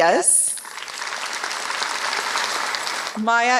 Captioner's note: applause